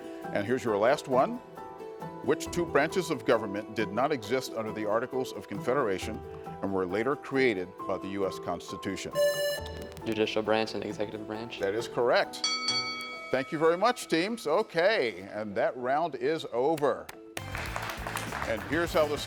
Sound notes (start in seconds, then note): 9.2 buzzer rings; 12.4 bell dings; 17.3 host and audience applauds